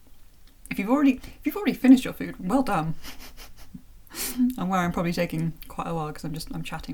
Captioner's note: chuckle